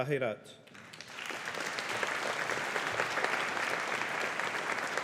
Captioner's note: audience applauding